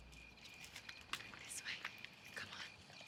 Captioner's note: whispering